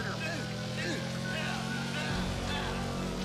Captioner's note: grunting